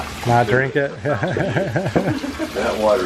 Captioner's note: laughter